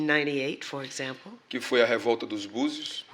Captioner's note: speaking portuguese